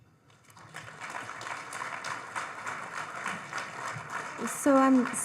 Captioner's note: audience applauding